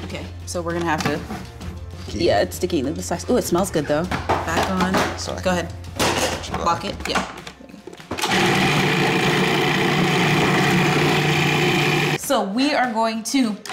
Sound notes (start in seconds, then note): 8.2 blender whirs